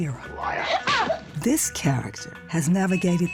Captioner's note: screams